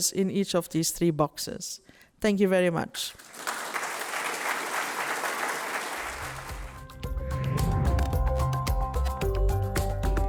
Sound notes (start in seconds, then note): 3.1 applause; 6.0 upbeat music